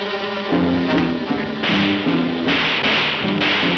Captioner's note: guns shooting